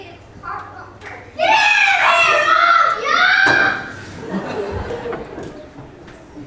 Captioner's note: cries